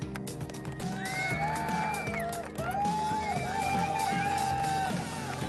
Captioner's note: cheering